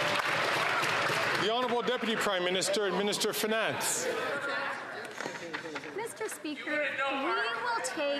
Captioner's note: some Applause